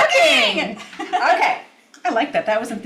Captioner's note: laughs